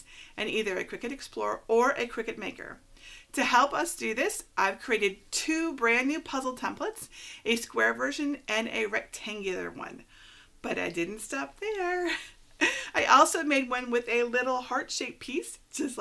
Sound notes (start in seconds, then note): 12.0 giggling